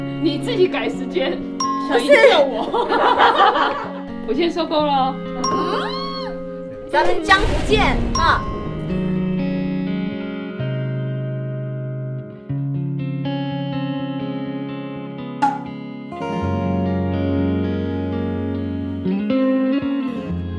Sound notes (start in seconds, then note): 2.0 hahahaha; 15.4 sending kisses